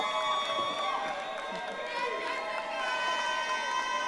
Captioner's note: audience applauding